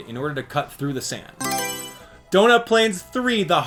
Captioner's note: Mario Selection Sound